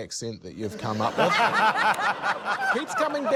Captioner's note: laughter